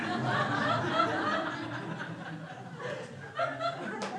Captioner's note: crowd laughs